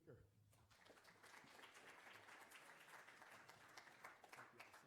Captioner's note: applause